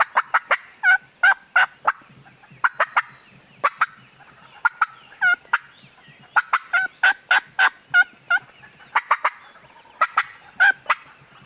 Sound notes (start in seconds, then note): 1.2 turkeys gobbling